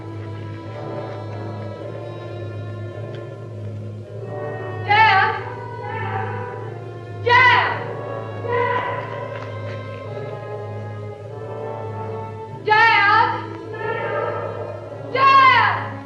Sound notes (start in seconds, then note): 4.2 echoing; 12.0 echoing